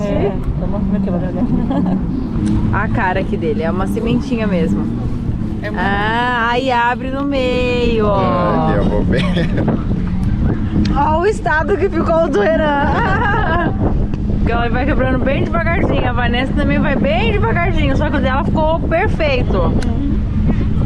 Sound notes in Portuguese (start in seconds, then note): 12.7 risos